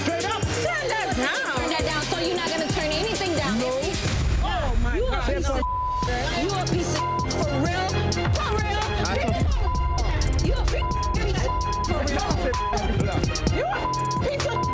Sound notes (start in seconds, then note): 5.5 beep; 9.4 beep